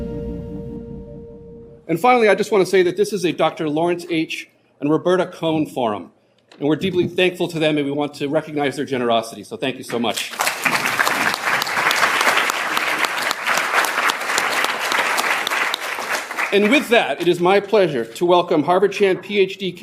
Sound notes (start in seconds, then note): 10.2 applause